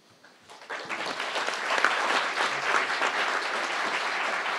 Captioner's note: crowd applauding